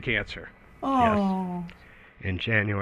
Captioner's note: sympathetically